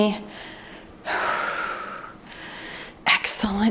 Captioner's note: exhales deeply